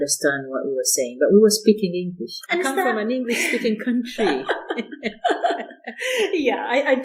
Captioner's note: laughter